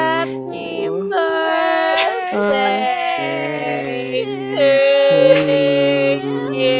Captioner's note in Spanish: más sonidos infernales